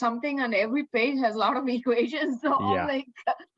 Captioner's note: chuckles